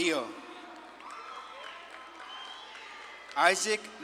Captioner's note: audience claps and cheers